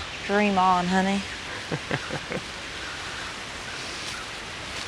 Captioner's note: Tex chuckles